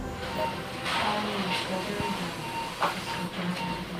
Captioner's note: murmuring